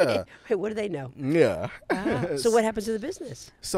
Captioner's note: laughs